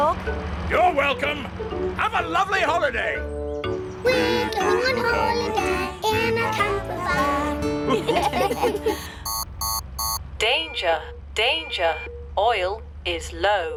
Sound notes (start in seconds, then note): 7.8 laughter; 9.2 beeping